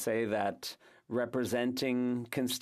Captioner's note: speaking French